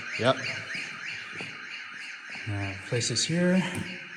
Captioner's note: alarm rings